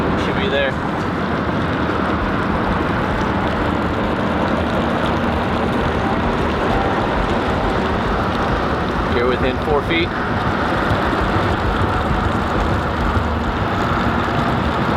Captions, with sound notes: - It should be there. (engine rumbling) You're within four feet.